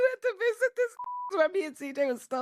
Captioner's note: beep